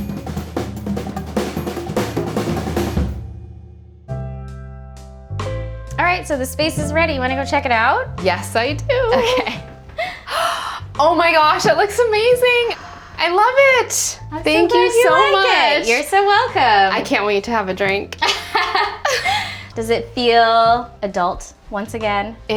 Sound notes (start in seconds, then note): 0.0 upbeat music ends; 4.6 relaxing music; 10.0 gasping; 18.2 laughing